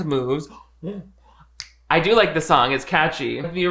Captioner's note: snapping fingers